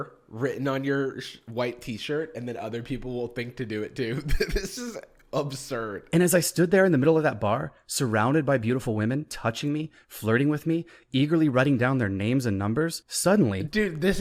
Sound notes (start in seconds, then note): 4.1 chuckles